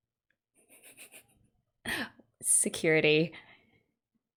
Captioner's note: laughs